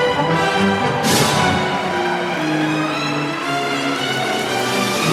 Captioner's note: applause